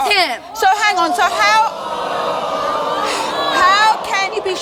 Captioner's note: audience groaning